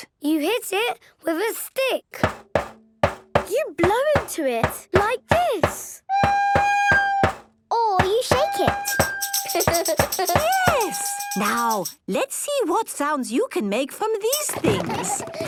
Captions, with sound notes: - You hit it with a stick! - Bang, bang, bang... - You blow into it, like this! - (recorder note plays) - Or you shake it! - (rattling) - Yes! Now, let's see what sounds you can make from these things.